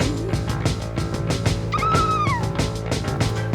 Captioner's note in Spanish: Anna exclama